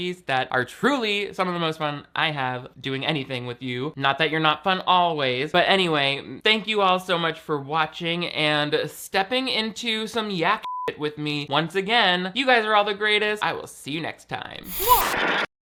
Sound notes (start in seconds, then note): 10.6 beep